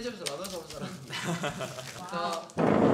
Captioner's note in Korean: 웃음소리